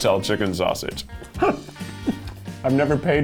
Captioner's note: chuckling